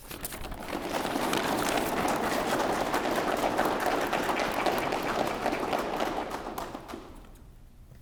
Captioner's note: applause